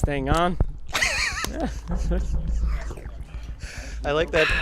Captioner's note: laughs